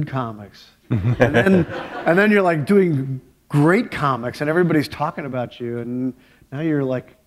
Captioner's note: laughter